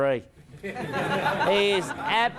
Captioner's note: crowd laughs